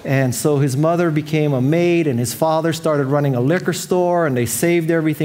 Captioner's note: none